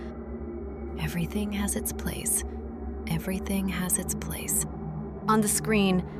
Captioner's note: whisper